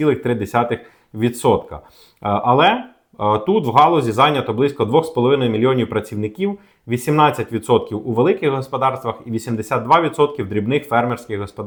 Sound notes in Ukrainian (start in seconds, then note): 1.8 сопіння